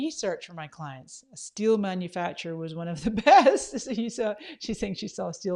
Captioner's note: laughs